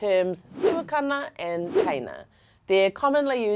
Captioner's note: air whooshing